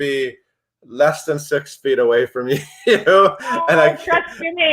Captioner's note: laughs